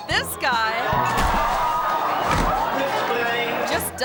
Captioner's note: performer thuds